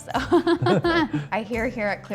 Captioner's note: both laughing